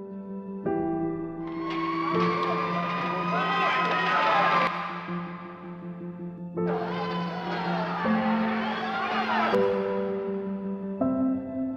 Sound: piano Music; sirens

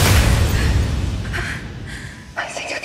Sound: heavy breathing

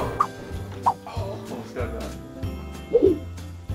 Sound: whooshing sound

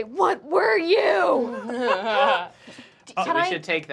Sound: laughing

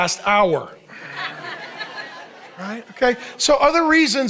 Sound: congregation laughing

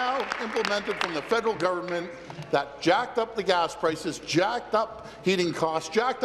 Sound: applause

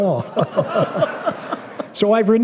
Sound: laughter

